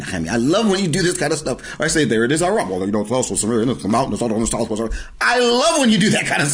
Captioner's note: imitating Nehemia; laughing